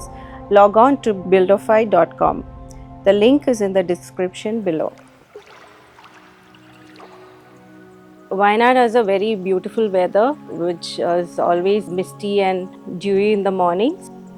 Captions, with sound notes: log on to buildofy.com. The link is in the description below. [Water lapping] [Ambient music] Wayanad has a very beautiful weather which is always misty and dewy in the mornings.